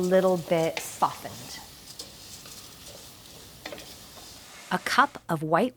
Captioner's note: pan sizzling